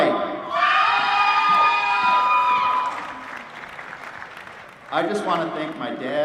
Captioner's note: applause